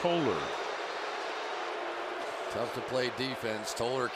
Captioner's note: booing